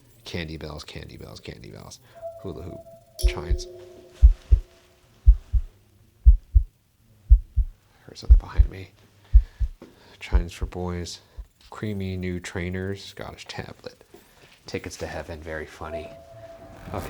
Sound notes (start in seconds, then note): 9.3 loud heartbeat